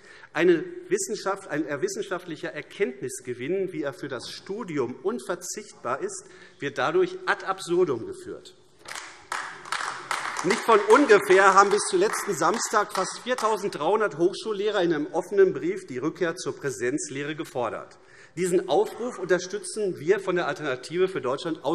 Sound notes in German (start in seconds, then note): 8.8 Beifall AfD